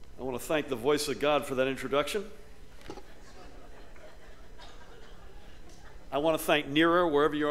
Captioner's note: laughter